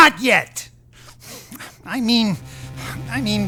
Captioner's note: heavy breathing